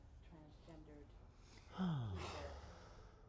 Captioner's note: sigh